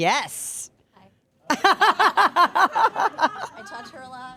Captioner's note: group laughing